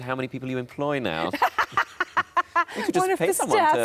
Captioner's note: Sarah laughs